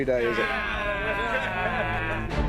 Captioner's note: all groaning